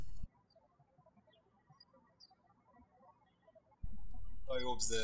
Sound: birds chirping

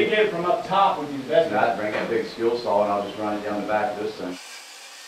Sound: workers Talking

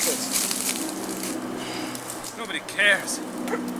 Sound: leaves rustling

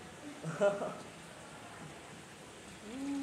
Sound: trainers laughing

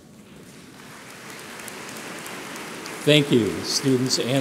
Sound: audience applauds

